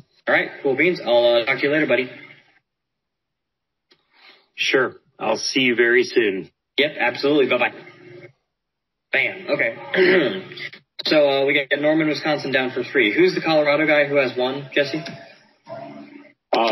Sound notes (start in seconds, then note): 9.9 clears throat